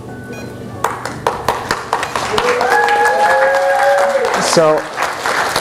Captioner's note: applause